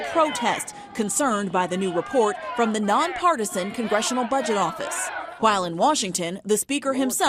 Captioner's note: chanting